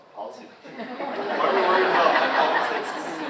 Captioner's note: audience laughs